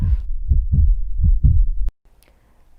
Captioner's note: heart beat sound